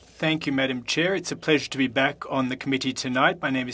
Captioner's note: speaking FRENCH